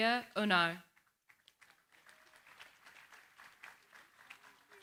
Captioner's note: applause